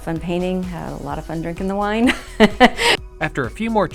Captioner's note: giggling